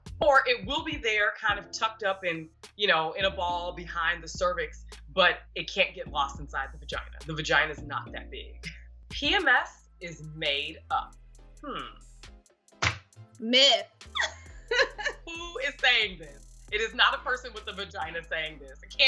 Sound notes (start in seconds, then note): 14.1 laughs